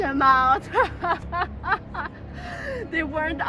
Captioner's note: maniacal proud laughter